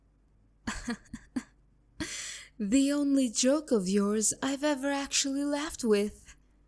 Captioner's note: chuckle